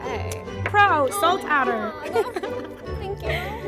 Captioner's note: laughs